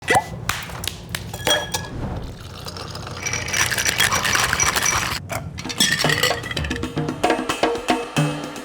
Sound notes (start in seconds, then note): 0.2 ice cracking; 1.2 cork pops; 1.2 spirits trickling; 1.2 glass clinks; 2.1 ice clanking; 6.0 upbeat music